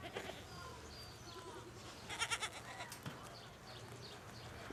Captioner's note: bleating